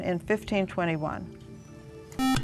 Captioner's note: beep